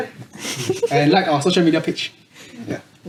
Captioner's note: laughs